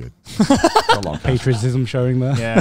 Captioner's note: laughs